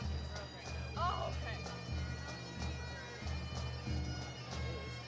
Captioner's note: chatter